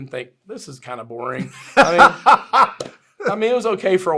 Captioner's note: laughs